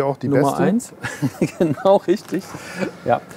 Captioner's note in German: lachend